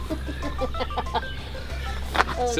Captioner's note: laughter